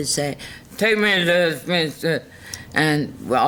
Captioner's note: slurs words